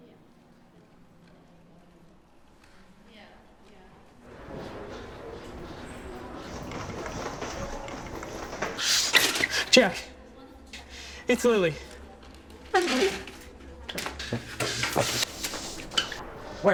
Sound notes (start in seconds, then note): 6.1 feet thumping; 12.6 chair scraping; 14.1 feet thumping; 15.6 shoes squeaking